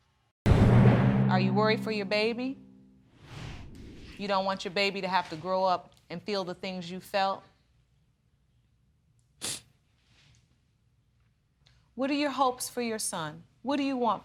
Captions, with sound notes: Are you worried for your baby? You don't want your baby to have to grow up and feel the things you felt? (SNIFFLING) What are your hopes for your son? What do you want for him?